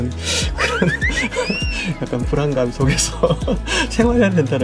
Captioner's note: comical sound effect